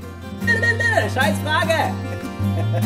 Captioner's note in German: lacht